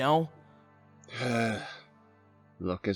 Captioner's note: sigh